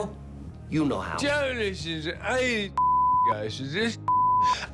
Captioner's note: incomprehensibly slurring as Ozzy Osbourne